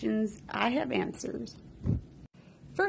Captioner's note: woosh